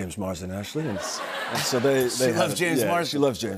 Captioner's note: laughter